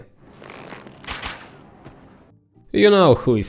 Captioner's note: pew pew